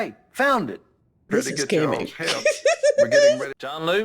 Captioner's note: giggles